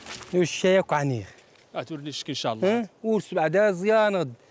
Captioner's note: Arabic spoken audio